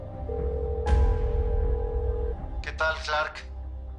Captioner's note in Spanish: La otra línea timbra